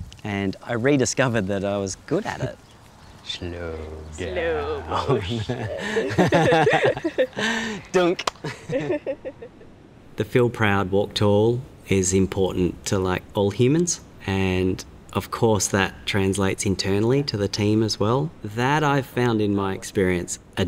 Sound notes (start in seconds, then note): 4.6 laughing; 8.1 hands clap